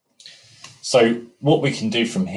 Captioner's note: breaths in heavily